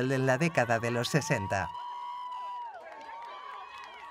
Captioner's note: crowd cheering